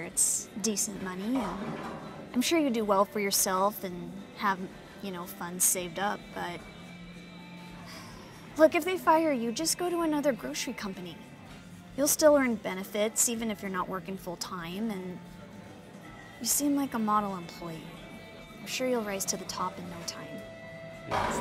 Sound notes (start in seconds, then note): 6.5 sighs